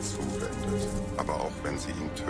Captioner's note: horse gallops and whoosh; chariot and horses galloping